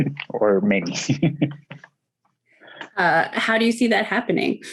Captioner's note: laughing